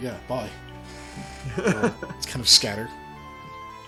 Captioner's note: laughs